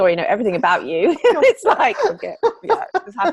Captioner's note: laughing